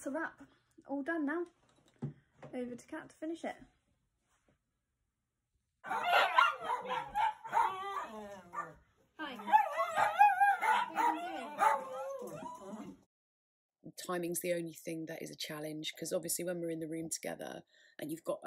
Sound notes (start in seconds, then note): 5.8 dogs barking